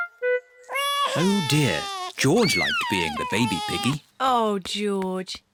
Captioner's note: bawls